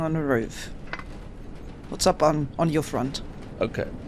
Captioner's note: metallic tapping